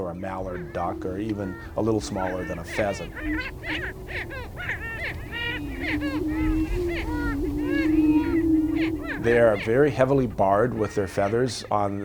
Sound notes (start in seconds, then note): 3.4 prairie chickens screeching